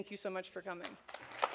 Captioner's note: applause